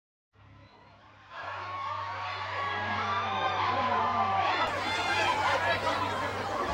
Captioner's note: crowd cheers